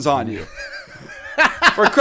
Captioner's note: laughter